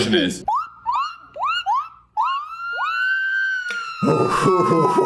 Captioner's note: accurately mimicking ambulances